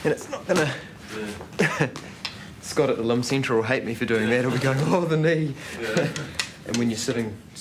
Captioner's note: laughs